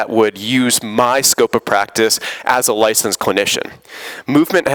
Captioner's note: none